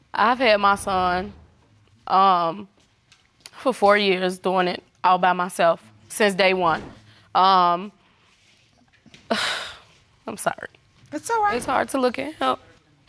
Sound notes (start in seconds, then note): 8.3 sighs